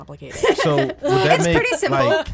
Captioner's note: laughs